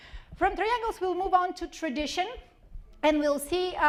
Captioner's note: none